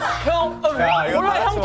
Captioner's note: chew